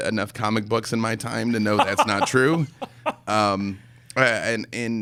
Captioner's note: laughing